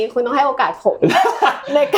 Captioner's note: laughs